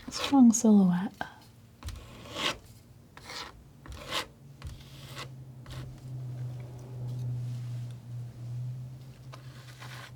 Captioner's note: scratching